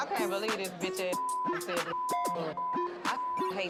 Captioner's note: beep